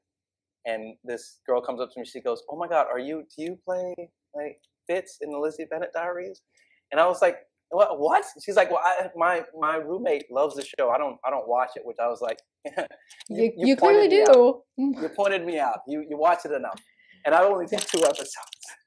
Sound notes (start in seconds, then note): 12.6 laughs